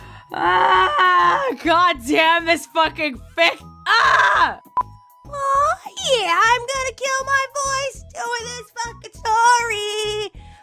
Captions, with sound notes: Aaaaaaaaagh, Goddamn this fucking fic! AAAAAGH!! (unnaturally soft and squeaky) Awww yeah-! I'm gonna kill my voice doin' this fucking storyyyyy!